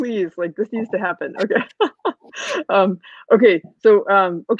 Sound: laughing

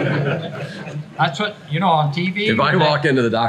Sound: everyone laughs

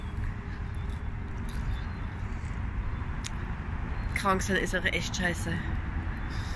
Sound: background noise, chewing & sniffling

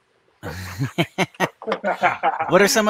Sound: men laughing

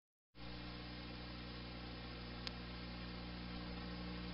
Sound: VHS static

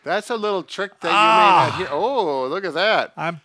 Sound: grunting

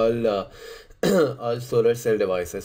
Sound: cough

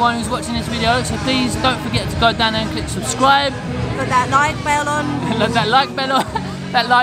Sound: laughs

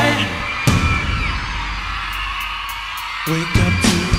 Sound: crowd cheers

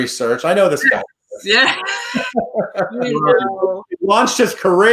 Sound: laughing

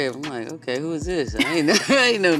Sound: laughing

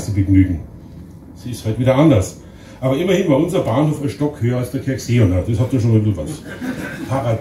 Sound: laughter in the audience

